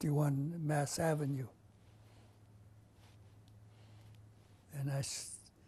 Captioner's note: pauses for 3 seconds